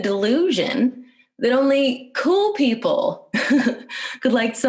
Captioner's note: laughs